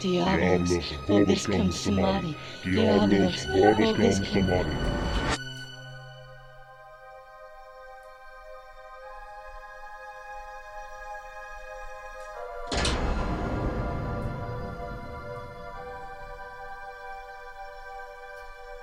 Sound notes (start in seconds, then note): 0.1 Chemock and Hannah speak Latin; 5.7 ominous music; 12.6 door slams